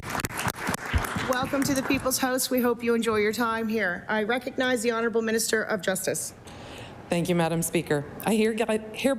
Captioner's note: applause